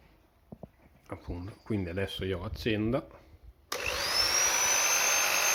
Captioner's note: drill noise